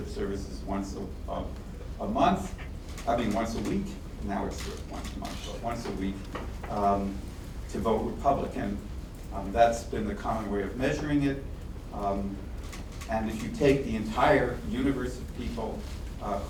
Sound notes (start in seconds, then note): none